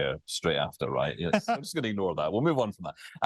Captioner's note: laughter